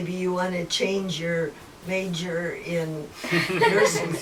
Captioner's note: laughter